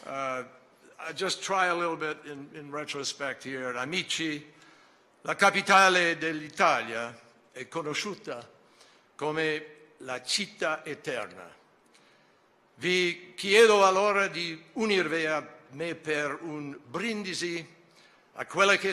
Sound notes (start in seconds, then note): 6.0 in Italian